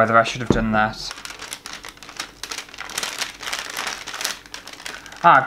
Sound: paper Crinkling

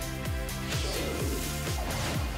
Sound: whoosh

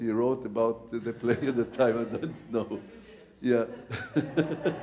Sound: audience laughing; laughs

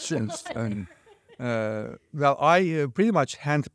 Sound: laughs

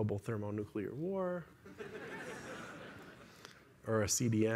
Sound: laughter

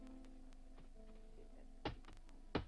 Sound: ball thwacks

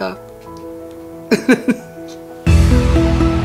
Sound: laughs

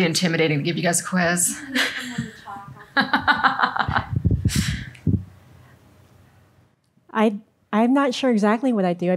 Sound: laughter

